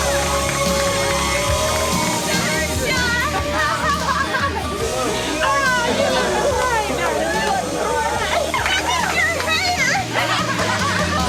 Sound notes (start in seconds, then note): 3.4 Jon's sister laughs